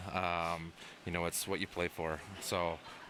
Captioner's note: laughter